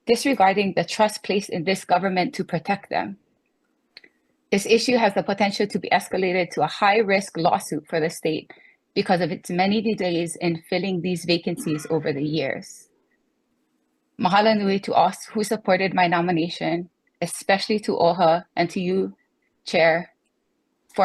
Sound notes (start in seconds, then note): 14.5 speaks foreign language